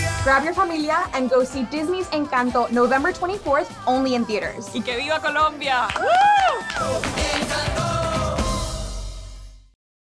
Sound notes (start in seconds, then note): 0.0 upbeat music; 5.8 cheering